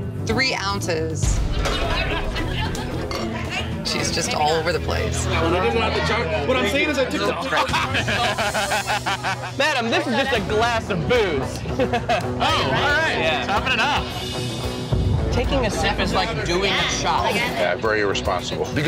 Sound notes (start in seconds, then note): 1.6 patrons chattering; 7.6 both laughing